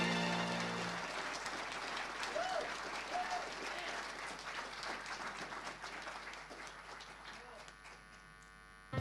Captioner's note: audience applause